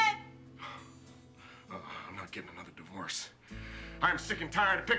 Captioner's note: sighs